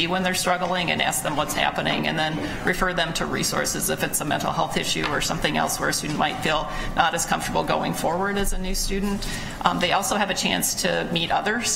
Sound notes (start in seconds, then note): none